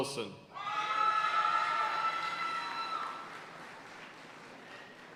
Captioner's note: audience cheering and applauding